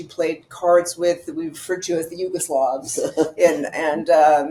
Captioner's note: laughing